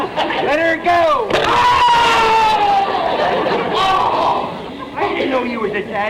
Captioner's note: screaming